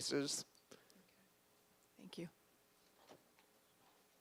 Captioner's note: voiceover